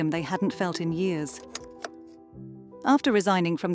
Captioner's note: slide clunking